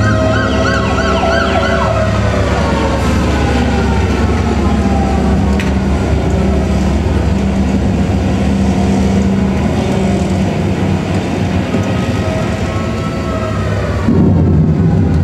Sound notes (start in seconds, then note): 0.2 sirens; 3.2 tornado sirens; 9.2 thunder